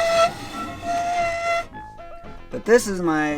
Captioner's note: drawer squeaking